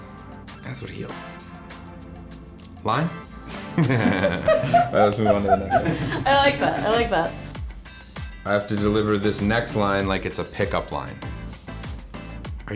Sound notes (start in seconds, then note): 3.6 laughs